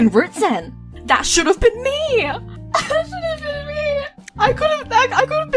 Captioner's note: crying